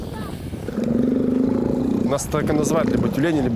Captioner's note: low soft roar